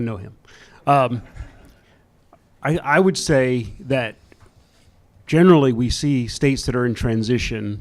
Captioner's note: chuckles